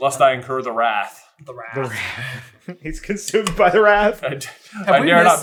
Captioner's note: laughing